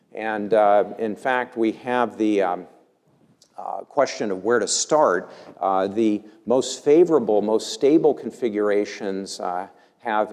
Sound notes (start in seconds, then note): none